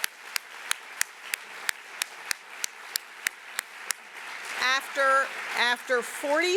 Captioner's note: applause